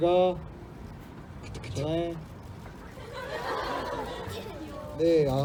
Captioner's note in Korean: 웃음